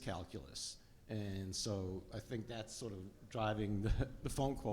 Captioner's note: laughs